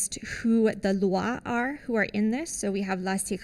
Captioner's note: non-english